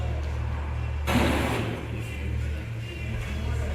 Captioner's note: radio statics; light hiphop music